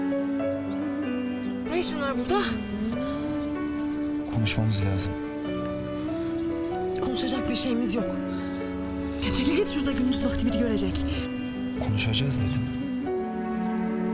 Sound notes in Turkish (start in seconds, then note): none